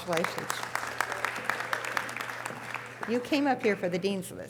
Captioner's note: audience applause